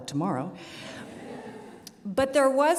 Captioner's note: audience laughs